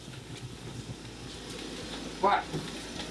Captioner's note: ventilator humming